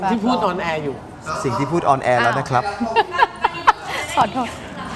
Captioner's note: laughs